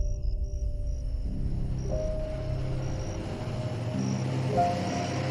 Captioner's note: engine rumbling